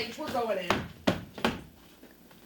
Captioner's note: knocking on door